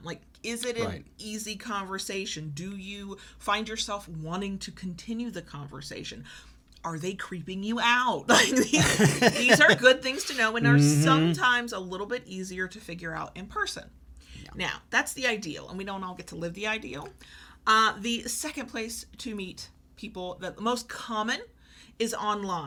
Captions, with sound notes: Like, is it an easy conversation? Do you find yourself wanting to continue to conversation? Are they creeping you out? (laughs) These are good things to know and are sometimes a little bit easier to figure out in person. Now that's the ideal and we don't all get to live the ideal. The second place to meet people, the most common, is online.